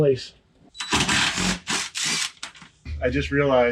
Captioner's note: drill whirring